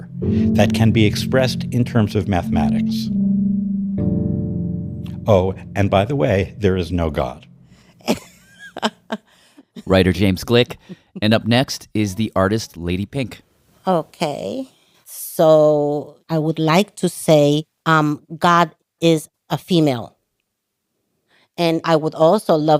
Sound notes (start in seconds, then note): 8.0 laughter